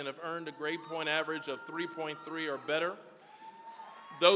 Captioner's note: audience cheering